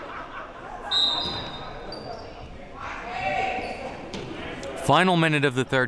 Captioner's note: whistle blowing